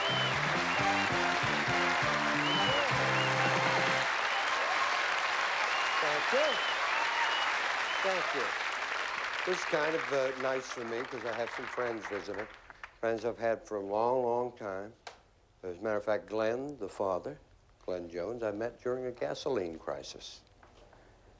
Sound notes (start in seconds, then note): 6.8 applause and cheering